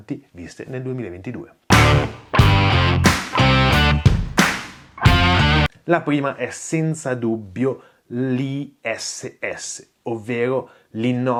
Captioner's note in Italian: Applauso